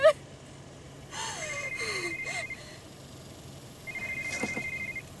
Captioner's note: phone ringing